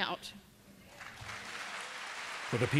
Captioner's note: applause